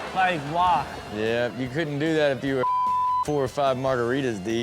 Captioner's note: beep